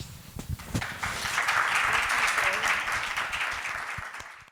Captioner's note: audience applauding